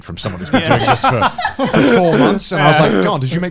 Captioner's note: laughing